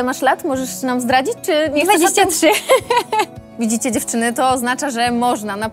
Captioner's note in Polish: śmiech